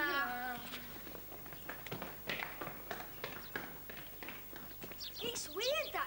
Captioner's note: footsteps